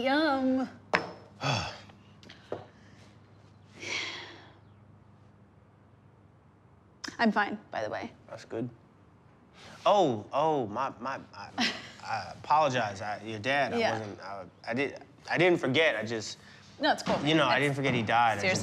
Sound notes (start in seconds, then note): 1.4 Rufus sighs; 3.8 Jane sighs; 11.5 Jane chuckles